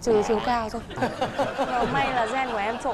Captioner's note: laughing